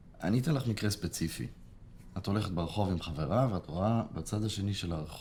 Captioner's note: speaking foreign language